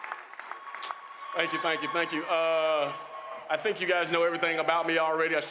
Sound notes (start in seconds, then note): 0.0 applause, cheers